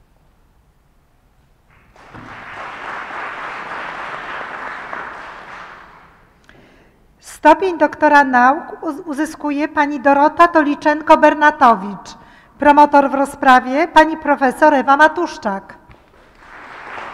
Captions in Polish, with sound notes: [oklaski] Stopień doktora nauk uzyskuje Pani Dorota Toliczenko-Bernatowicz. Promotor w rozprawie Pani profesor Ewa Matuszczak.